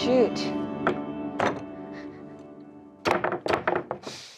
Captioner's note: hand bangs